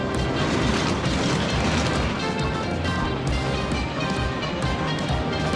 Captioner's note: bobsleighs whizzing; upbeat rock music continues